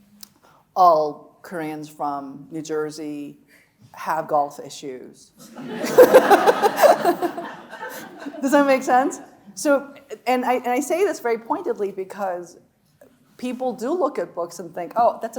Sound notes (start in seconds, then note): 5.5 audience laughing; 5.5 laughing